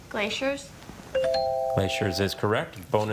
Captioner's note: text chiming